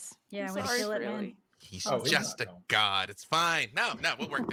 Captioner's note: murmurs